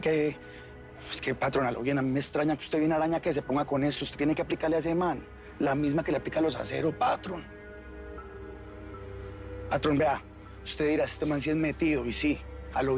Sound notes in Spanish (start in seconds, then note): none